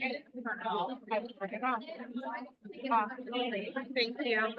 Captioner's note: audience members chattering